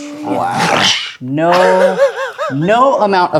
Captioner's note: laughing